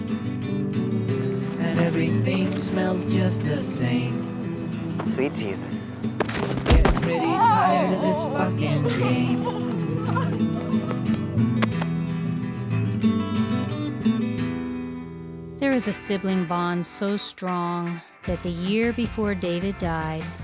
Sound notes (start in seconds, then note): 6.2 thudding blow